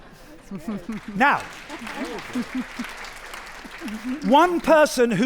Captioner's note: audience applauding